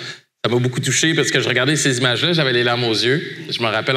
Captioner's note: none